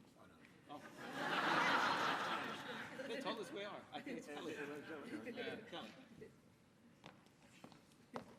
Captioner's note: deliberation and laughter over who will speak next